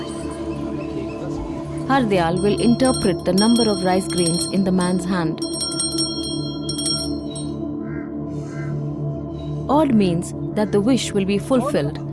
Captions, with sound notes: (dramatic music) Hardayal will interpret the number of rice grains in the man’s hand. (bell jingles) Odd means that the wish will be fulfilled